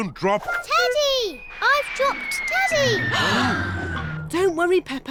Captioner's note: all gasp